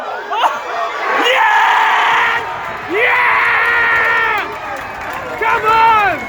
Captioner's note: everyone starts cheering/screaming/shouting!